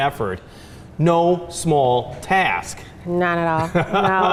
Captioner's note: laughs